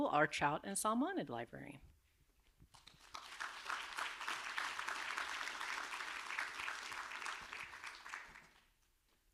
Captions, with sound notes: our Trout and Salmonid Librarian. (audience applauding)